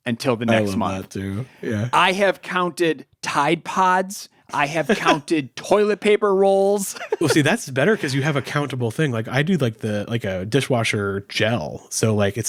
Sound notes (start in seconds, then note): 6.9 laughing